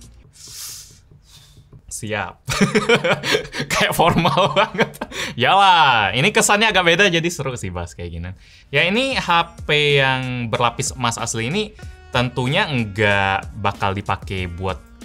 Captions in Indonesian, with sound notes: Siap. *tertawa* kayak formal banget. Iya lahh ini kesannya agak beda jadi seru sih bahas kayak gini. Ini HP yang berlapis asli tentunya nggak bakal dipake buat